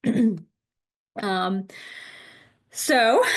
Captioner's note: clears throat